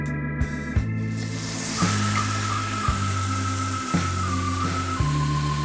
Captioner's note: seductive music; steak sizzling